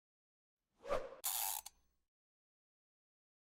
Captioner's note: whoosh; gear winding